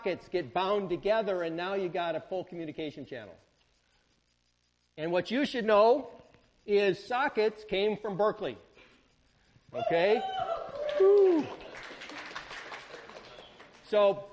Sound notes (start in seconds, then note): 9.7 students cheer